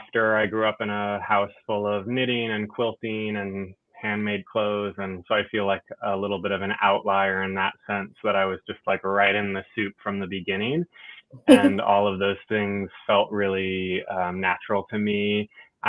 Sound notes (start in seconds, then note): 11.4 laughs